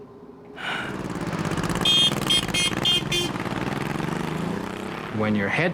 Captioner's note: horn honks